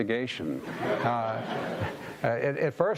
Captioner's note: audience laughing